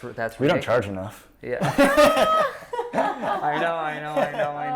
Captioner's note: laughing